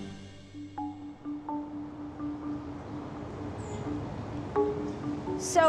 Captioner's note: passing cars